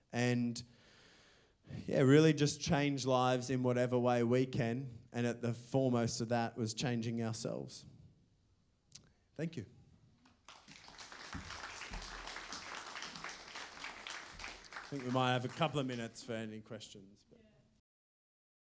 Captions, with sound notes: and really just change lives in whatever way we can. And at the foremost of that was changing ourselves. Thank you. [APPLAUSE] I think we might have a couple of minutes for any questions.